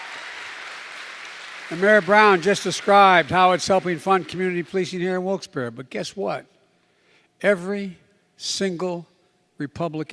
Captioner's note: applause